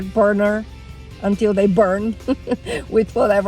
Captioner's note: laughs